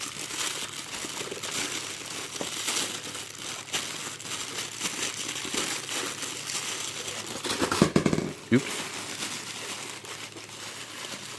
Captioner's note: plastic rustling; more Plastic rustling